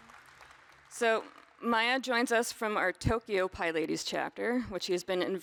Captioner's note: applause